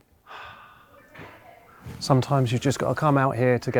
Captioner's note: sighs